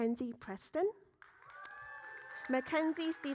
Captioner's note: audience cheering